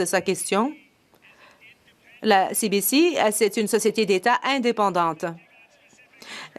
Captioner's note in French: voix de l'interprète